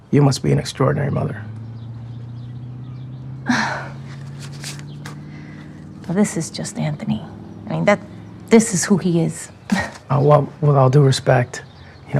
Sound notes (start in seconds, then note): 1.6 birds chirping; 1.6 engine humming; 3.4 huffs; 9.7 chuckles